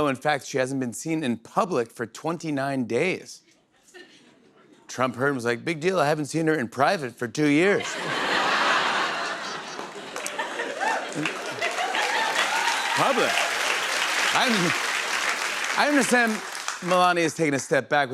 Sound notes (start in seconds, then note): 7.8 laughter; 11.6 applause